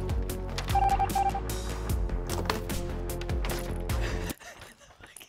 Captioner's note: machine beeping; laughing